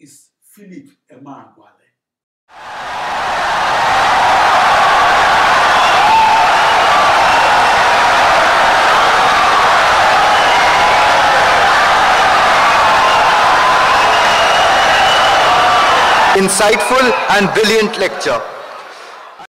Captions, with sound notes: “Philip Emeagwali.” [Wild applause and cheering for 17 seconds] Insightful and brilliant lecture